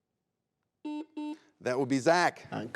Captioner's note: buzzer beeps